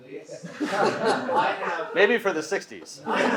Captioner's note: audience laughing